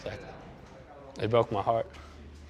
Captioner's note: breathing deeply